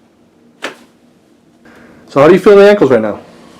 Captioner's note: cracking